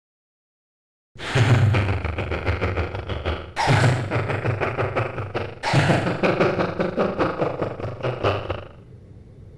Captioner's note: evil laugh